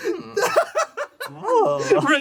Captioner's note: laughs